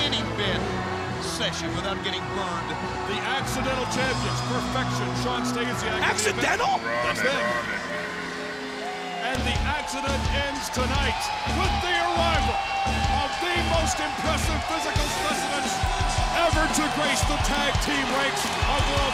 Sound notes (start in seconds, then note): 8.0 crowd cheering